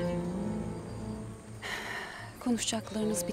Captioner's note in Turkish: Nefes sesi